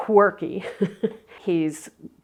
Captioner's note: chuckles